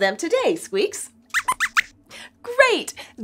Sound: squeaks squeaks

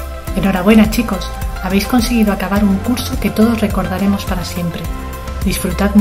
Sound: speaking in foreign language

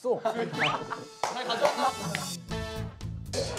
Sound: they burst out in laughter

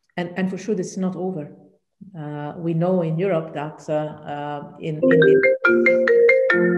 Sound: phone ringing

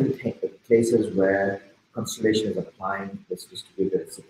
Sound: speaking softly

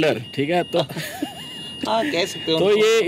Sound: laughing

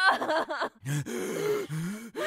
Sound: gasping; breathing heavily

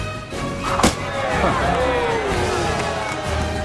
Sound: dramatic music; axes thwacking

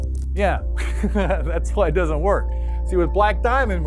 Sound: chuckle

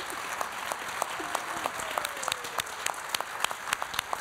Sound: applause

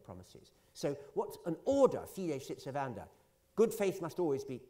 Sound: italian

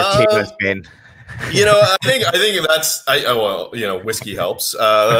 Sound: chuckles

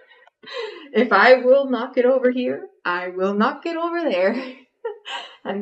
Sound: laugh; laughs

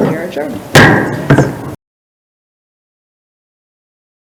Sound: gavel taps

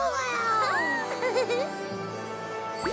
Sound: Pinkfong chuckles

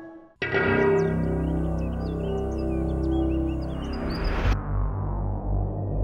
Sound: dramatic music; birds chirping

